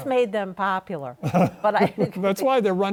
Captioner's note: chuckles